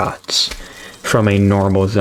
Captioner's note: inhales Oxygen